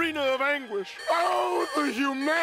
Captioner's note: alarm beeping